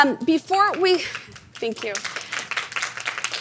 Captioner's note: audience applauding